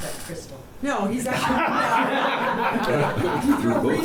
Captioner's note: laughs